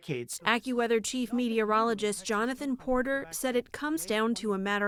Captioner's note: voice-over